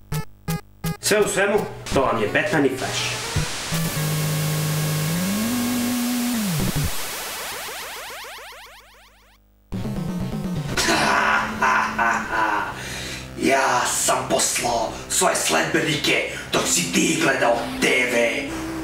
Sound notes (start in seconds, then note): 3.3 static; 9.8 dramatic music